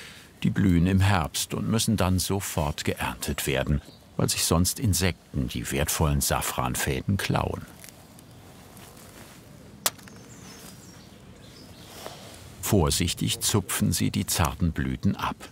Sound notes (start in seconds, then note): 9.6 birds chirping